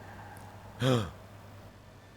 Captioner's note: gasp